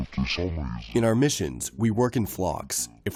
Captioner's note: through translator